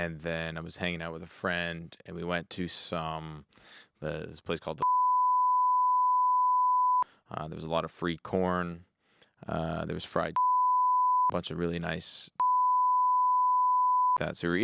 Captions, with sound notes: and then I was hanging out with a friend and we went to some, this place called the (beep) there was a lot of free corn. There was fried (beep) bunch of really nice (beep).